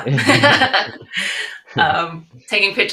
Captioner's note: laughing